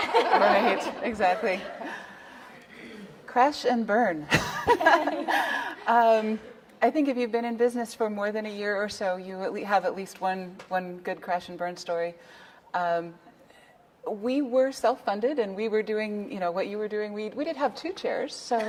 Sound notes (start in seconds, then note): 4.4 laughs; 17.9 laughing